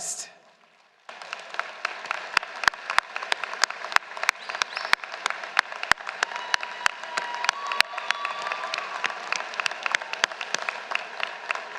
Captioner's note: applause